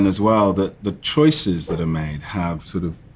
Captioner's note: slide swipe